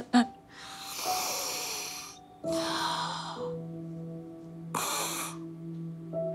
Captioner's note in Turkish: Derin derin nefes alıyor